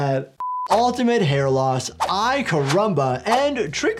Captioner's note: quick beep